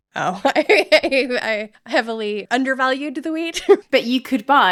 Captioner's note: laughing